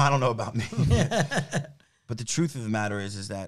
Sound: laughing

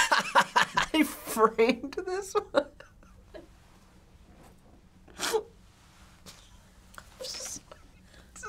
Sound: laughing; laughing

